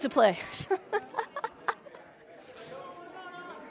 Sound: laughs

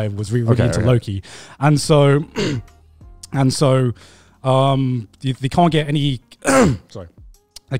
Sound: coughs

